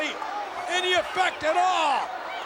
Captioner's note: applause